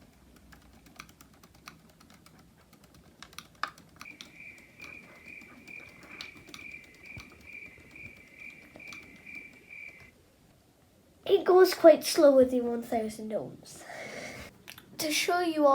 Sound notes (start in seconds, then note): 4.0 crickets